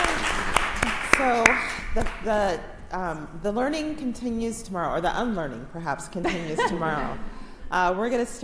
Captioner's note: applause